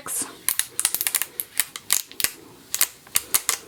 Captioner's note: tape peeling